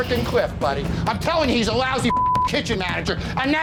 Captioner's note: beep